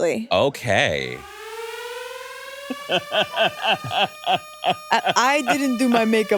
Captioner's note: alarm blaring; laughs